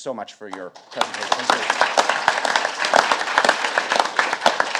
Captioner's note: audience clapping